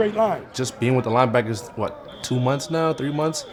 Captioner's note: whistle blowing